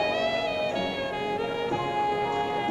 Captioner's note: none